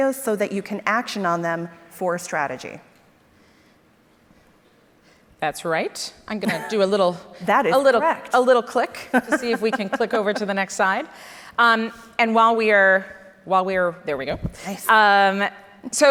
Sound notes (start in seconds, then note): 8.9 laughs